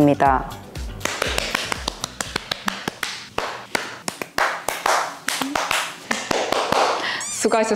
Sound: round of applause for who finally completed today’s workout

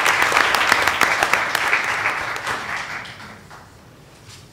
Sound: applause

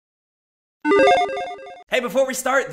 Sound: logo beeps

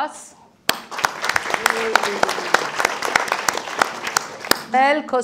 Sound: audience applauding

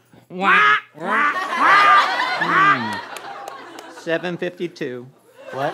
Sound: quacking

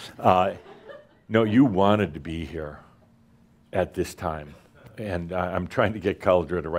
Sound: a few chuckles

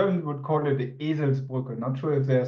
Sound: speaking German

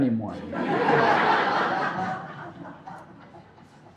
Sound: audience laughing

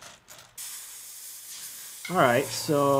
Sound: hissing; motor whirring

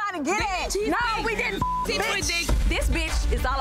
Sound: beep

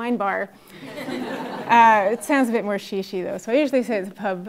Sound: laugh

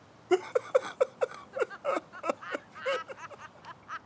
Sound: laughing

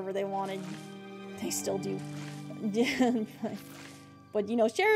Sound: laughter

